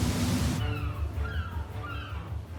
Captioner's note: seagulls squawking